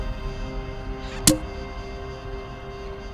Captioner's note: frightened cork pops